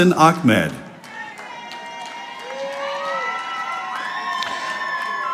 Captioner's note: audience applauding